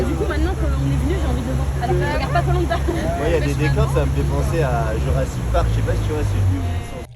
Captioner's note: random french conversations